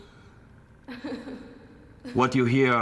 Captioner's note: woman crying